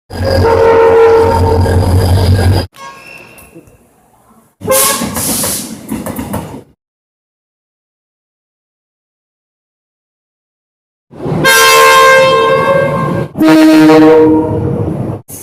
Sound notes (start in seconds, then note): 0.4 air Horn; 4.6 air Horn; 11.4 air Horn